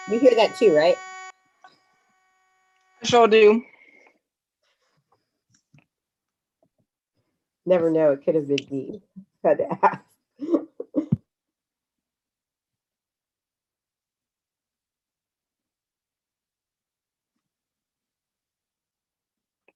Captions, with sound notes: - You hear that too, right? - Sure do. - Never know, it could've been me, had to ask. (laughs)